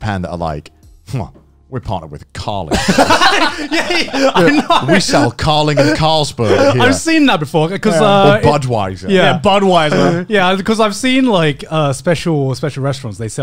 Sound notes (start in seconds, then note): 2.7 laughing